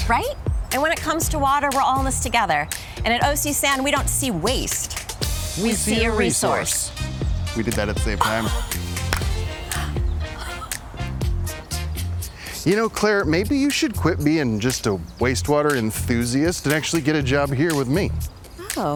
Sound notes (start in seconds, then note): 8.6 hands clapping; 9.6 gasping